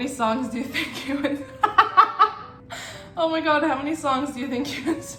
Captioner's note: laughs